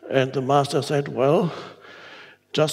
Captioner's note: none